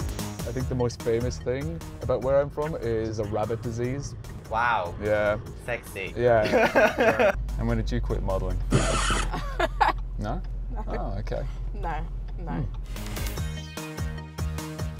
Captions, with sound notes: I think the most famous thing about where I'm from is a rabbit disease. Wow! Yeah. Sexy. Yeah. [ Laughter ] And when did you quit modeling? [ Laughter ] No? Ah .... OK. No. No.